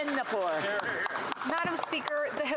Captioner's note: applause